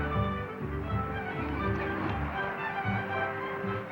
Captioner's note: growling